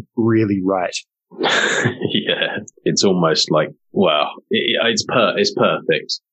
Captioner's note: laughing